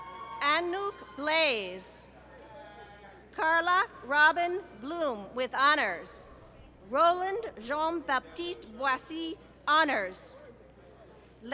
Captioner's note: applause